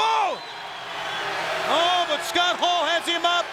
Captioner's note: audience cheers